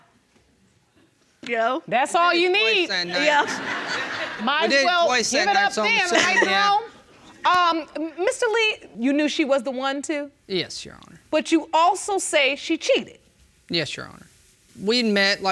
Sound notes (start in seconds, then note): 2.7 audience laughing